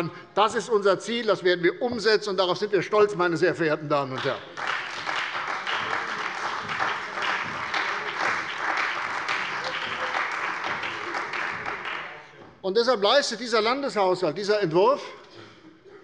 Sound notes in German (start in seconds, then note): 4.1 Beifall bei der CDU und dem BÜNDNIS 90/DIE GRÜNEN